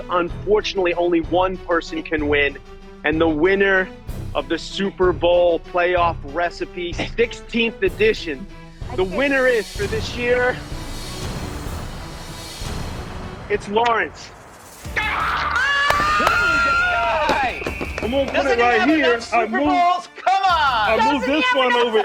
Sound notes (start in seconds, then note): 11.3 dramatic music; 14.9 all screaming